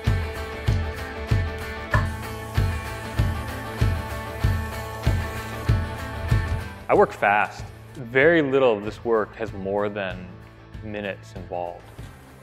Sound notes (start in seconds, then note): 2.0 spraying